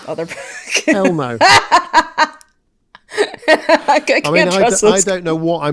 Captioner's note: laughs uproariously